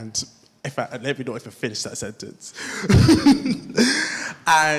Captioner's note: laughs